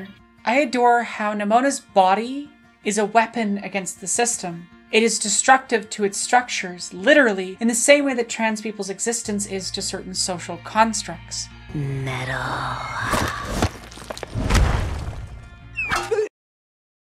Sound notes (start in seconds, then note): 14.2 thud; 15.7 whistle---plonk